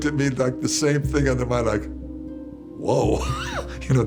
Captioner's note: laughs